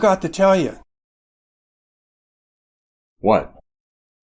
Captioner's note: silence